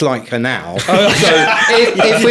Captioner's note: laughing